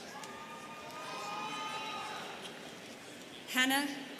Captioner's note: students cheering